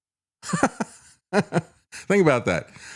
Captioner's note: laughter